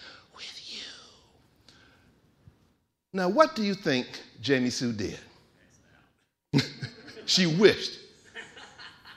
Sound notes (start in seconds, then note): 6.6 laughing